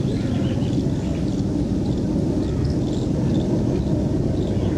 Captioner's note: birds chirping